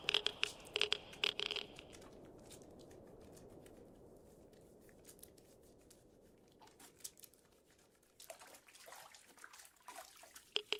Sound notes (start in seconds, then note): 0.0 wind, water sounds, radiation meter clicking, scrubbing; 2.2 wind, scrubbing; 7.4 wind, water sounds; 10.6 wind, water sounds, radiation meter clicking